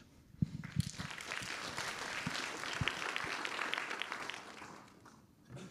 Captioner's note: wild applause and standing ovation